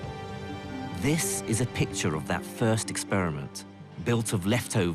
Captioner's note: voiceover